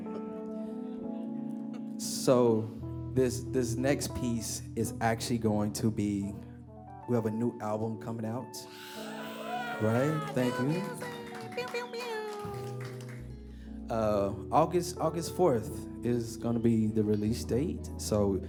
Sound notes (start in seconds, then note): 9.3 applause